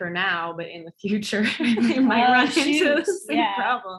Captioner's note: laughs